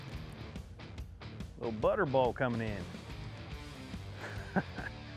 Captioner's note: laughs